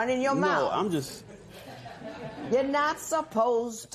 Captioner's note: laughter